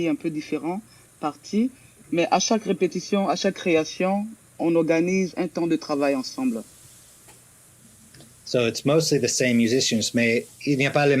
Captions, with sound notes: (Answers in French) So it's mostly the same musicians made, (speaks in French)